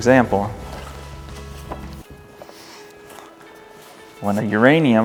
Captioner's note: paper rustling